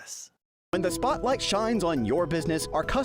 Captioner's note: voice-over